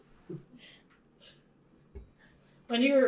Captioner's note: laughter